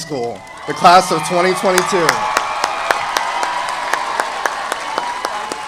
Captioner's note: audience applauding